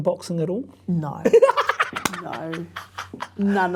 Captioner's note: laughs